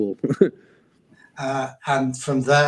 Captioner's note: chuckles